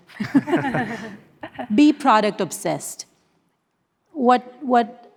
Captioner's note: panelists laughing